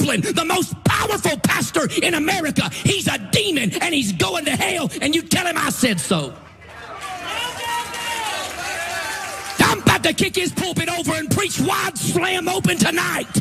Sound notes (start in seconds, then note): 6.4 applause